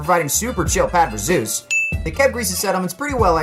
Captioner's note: ding